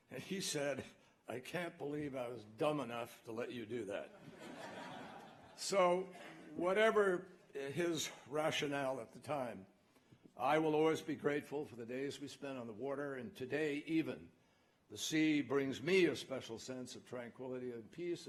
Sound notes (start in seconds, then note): 4.1 laughter